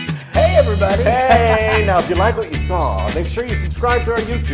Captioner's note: laugh